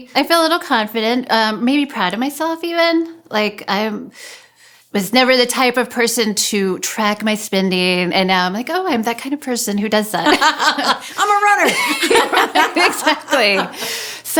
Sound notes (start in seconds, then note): 12.7 laughs